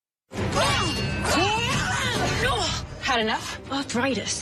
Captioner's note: swords clashing